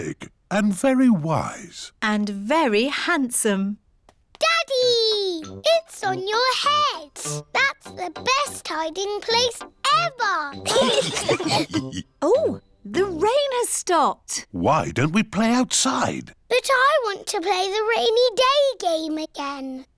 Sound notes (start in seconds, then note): 10.6 laughter